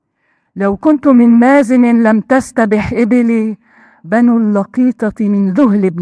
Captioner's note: speaking in foreign language